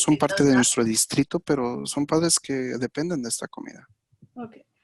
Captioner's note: speaking in Spanish